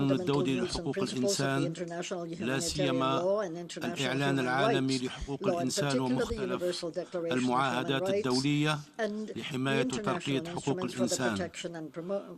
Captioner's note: speaking in foreign language